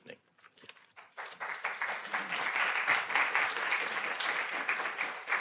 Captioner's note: audience applauding